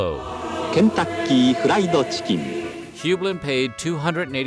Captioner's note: non-english speech